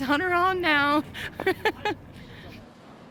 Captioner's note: laughs